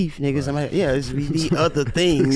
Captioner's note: brothers chuckling